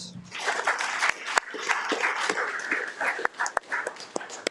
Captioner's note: audience applauding